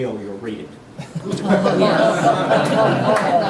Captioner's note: laughter